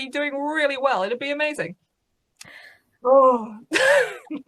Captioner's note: laughs